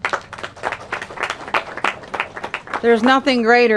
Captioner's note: applause